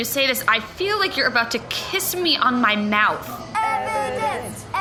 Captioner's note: chanting